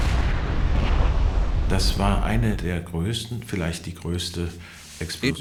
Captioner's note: speaking German